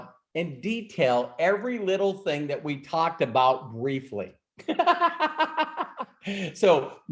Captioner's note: laughs